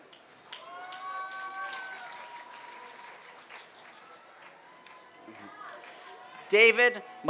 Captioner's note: applause